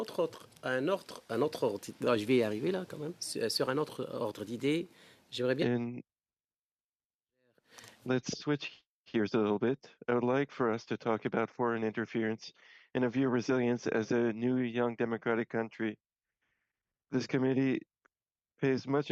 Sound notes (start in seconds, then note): 6.5 speaking French